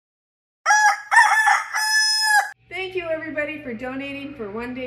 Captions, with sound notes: [rooster crowing] Thank you for donating for One Day for State.